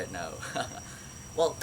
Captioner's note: awkward laugh